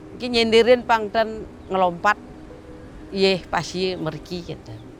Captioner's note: speaking foreign language